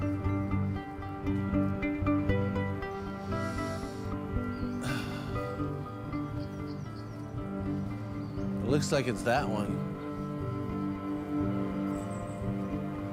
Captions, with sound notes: [sighs] Looks like it's that one.